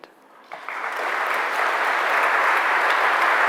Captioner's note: applause